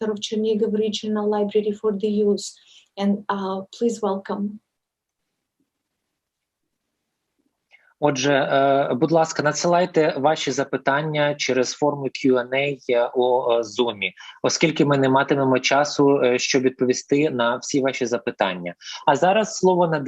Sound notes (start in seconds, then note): 7.4 foreign Language